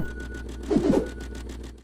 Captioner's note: electronic distortion; whooshing